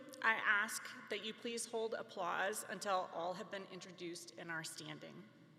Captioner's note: none